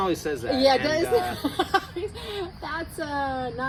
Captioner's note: laughs